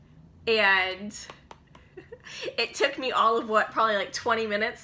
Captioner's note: chuckles